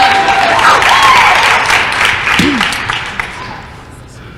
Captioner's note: applause